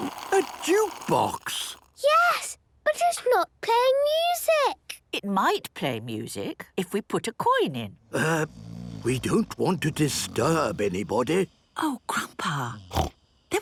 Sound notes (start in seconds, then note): 8.0 people snoring